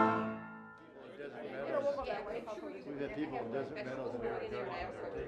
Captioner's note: people chattering